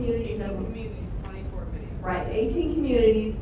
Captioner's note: voiceover